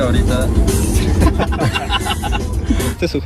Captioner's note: laughs in twitter ceo